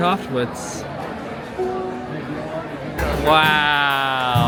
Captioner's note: crowd chattering